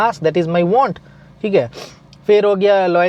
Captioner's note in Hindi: नाक से की जाने वाली आवाज़